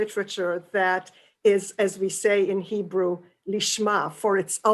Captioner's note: hebrew